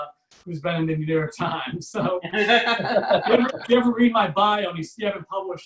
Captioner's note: audience Laughs